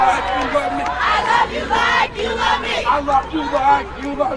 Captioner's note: crowd